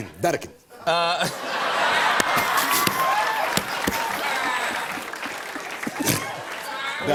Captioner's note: laughter and applause